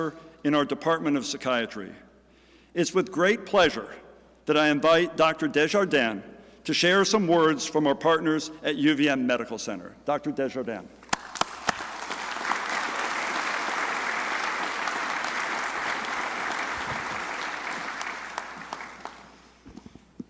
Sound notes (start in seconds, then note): 11.1 crowd applauding